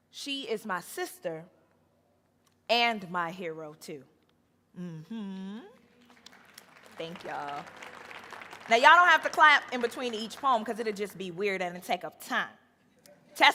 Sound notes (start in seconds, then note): 5.0 moans; 6.0 audience applauding